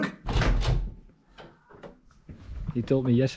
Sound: door latch clicking

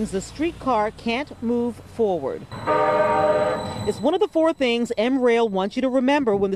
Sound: horn honking

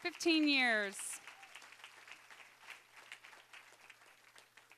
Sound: applause

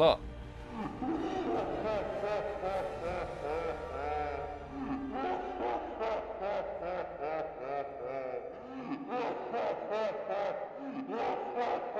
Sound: maniacal laughter

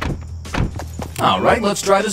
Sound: door closes; door opens

